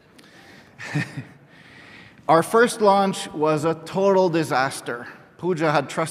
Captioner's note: laughter; laughs